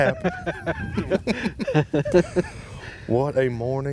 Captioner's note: laughing